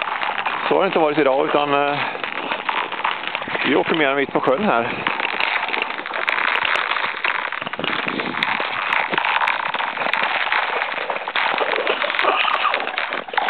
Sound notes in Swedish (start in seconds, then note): 7.2 isen knakar